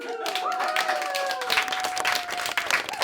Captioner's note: applause